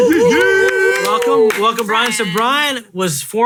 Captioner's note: hooting